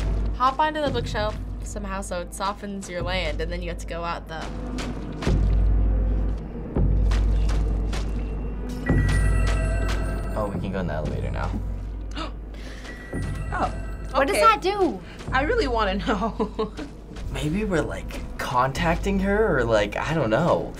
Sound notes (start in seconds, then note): 8.1 unearthly chime; 8.9 vase shattering; 12.1 gasping